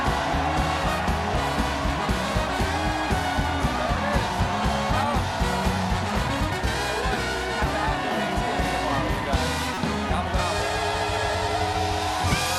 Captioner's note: cheers and applause